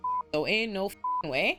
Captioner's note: beep